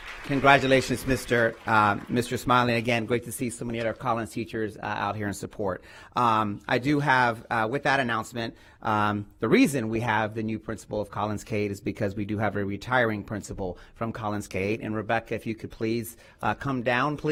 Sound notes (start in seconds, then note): 3.6 applause